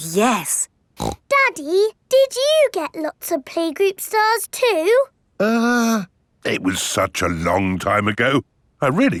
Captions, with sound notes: Oh, yes! (SNORTS) Daddy, did you get lots of playgroup stars too? Uh... It was such a long time ago...